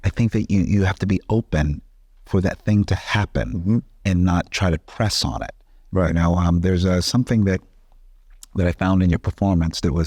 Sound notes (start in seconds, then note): none